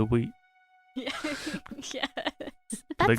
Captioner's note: laughter